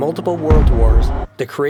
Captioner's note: booming